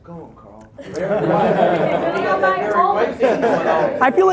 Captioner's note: laughing